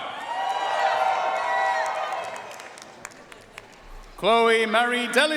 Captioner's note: audience cheering and applauding